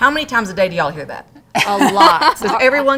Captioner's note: laughs